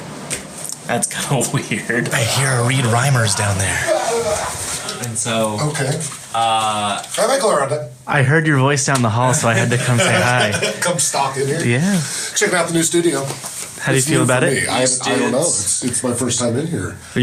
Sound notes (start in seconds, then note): 0.3 laughing; 2.0 loud distant talking; 9.2 laugh